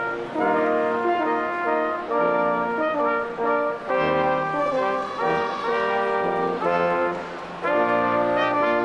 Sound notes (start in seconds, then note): 4.5 audience cheering